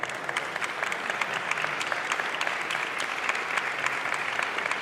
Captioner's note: audience applauding